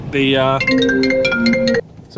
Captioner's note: phone ringing